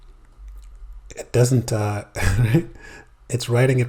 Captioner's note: giggles